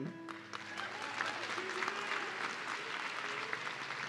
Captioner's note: audience cheering